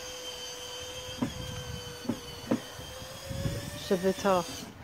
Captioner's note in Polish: Odgłos wkrętarki